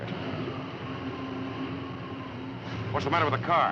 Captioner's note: engine sputtering